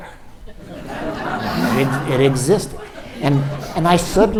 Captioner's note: audience laughs